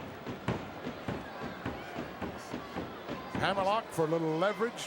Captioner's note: crowd murmuring